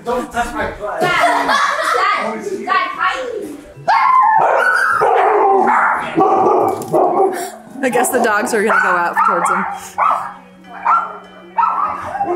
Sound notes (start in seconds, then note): 0.9 children laugh; 2.1 dogs bark; 8.7 mom drowned out by dogs barking; 9.9 dogs bark